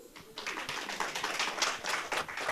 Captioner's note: applause